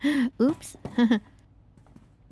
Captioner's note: laughing